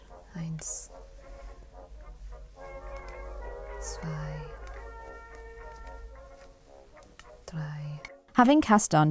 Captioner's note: counts in German